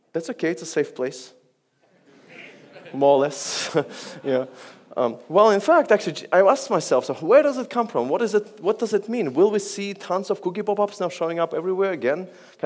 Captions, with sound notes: That's okay, it's a safe place. (audience laughs) More or less. (laughs) Well, in fact, I asked myself, where does it come from? What does it mean? Will we see tons of cookie popups now showing up everywhere again?